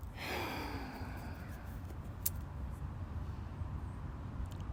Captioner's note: heavy breathing